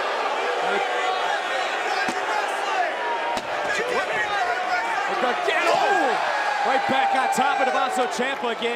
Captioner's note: crowd chatter